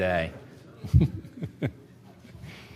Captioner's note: laughs